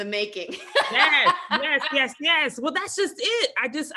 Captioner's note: laughs